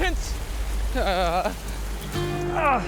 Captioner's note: rain pouring